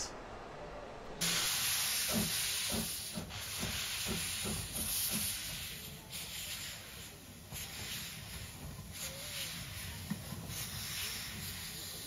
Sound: puffing from the locomotive

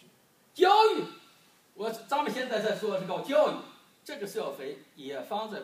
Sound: speaking foreign language

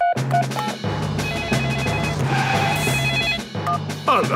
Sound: phone ringing; beeping

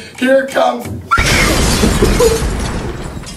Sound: bomb explodes, intense screaming

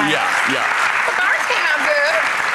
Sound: clapping

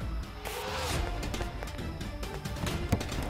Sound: car door opens; trunk opening

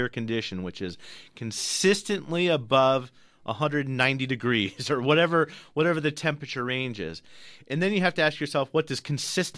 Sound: laughs

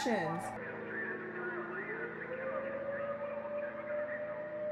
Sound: police siren alarming

